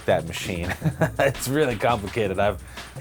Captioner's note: laughter